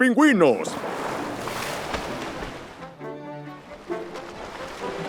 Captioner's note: water splashing